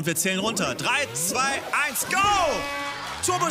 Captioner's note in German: Jubel